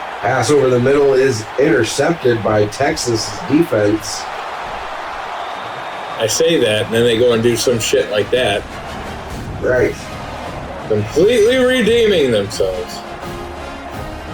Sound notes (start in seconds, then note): 5.5 crowd Noises; 9.9 crowd Noises; 11.3 crowd Noises; 12.9 crowd Noises